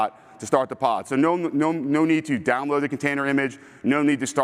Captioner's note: none